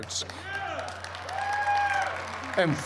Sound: cheers and applause

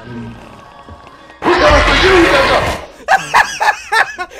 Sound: loud scary beast yells; laughs

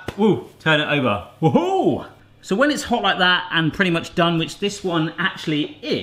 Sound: none

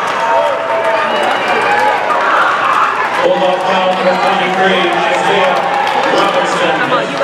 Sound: indistinct crowd noise

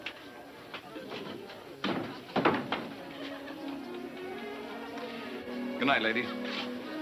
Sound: painting clattering; somber music

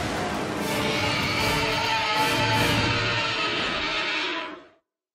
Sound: monster screeching

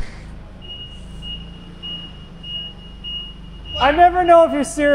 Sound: forklift beeping

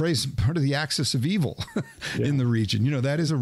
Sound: chuckles

